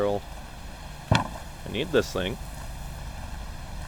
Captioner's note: board thunks